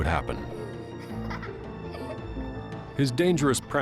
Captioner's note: child giggling